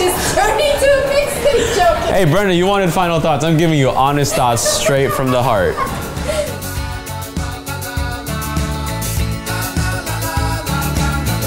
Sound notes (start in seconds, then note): 5.8 laughing; 6.7 upbeat music